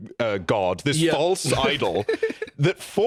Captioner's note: giggles